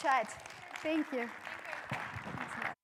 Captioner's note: crowd applauds